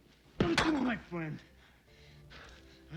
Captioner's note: fist pounds; Dominic breathes heavily